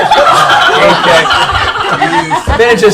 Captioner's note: laughter